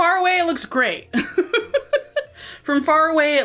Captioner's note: laughing